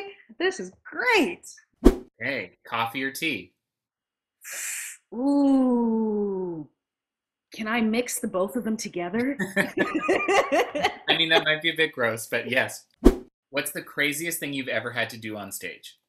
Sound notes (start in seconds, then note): 1.8 whoosh; 4.4 inhales sharply; 9.4 laughs; 13.0 whoosh